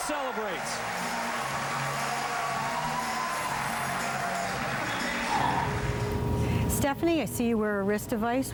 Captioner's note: cheers and applause